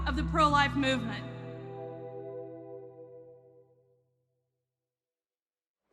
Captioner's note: soundbite of archived recording